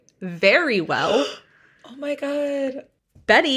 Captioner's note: gasps